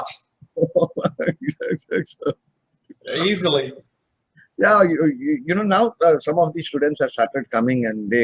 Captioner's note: laughing- happiness